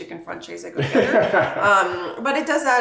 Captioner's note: laughing